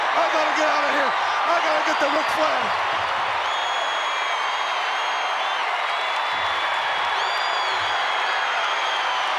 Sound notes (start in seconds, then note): 3.5 crowd whistles and applauds